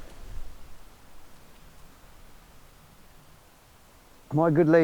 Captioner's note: wind rustling